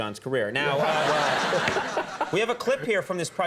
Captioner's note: crowd laughing